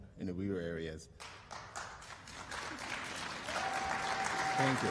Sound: applause

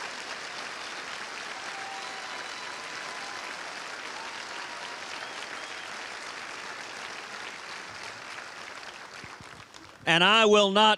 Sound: cheers and applause

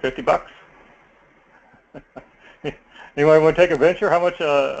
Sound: laugh

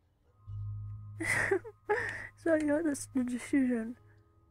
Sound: laughs

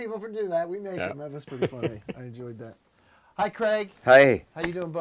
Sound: laughter

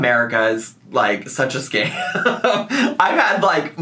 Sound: laughs

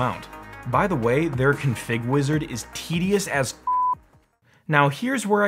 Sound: beeping

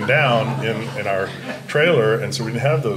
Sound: audience chuckling

